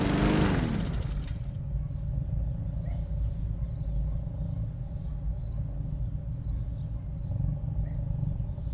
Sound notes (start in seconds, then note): 0.0 birds chirping; 0.0 mower stops